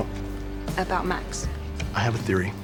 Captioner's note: voiceover